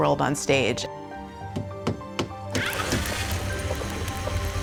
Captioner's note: drilling, whirring, pounding